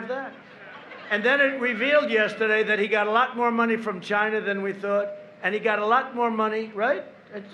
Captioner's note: laughter